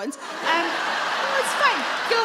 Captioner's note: audience laugh